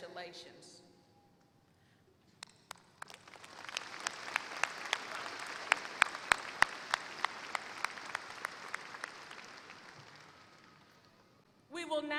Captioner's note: applause